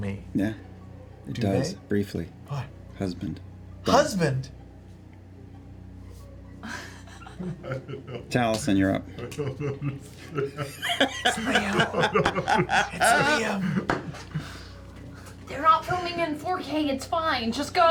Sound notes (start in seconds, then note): 9.6 whispers